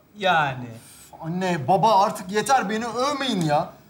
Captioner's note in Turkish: none